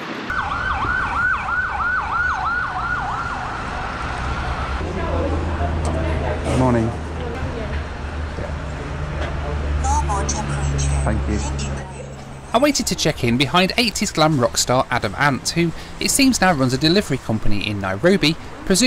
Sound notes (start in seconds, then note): 0.0 sirens wailing; 10.0 Robotic voice